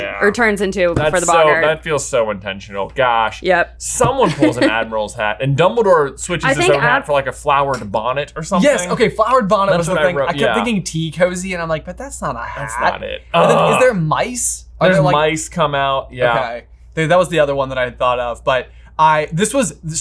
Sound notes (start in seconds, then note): 4.2 laughs; 12.4 groans